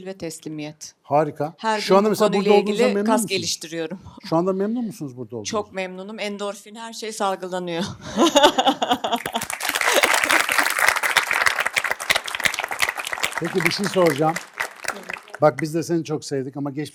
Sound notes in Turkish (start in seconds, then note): 7.8 kahkaha; 9.1 alkış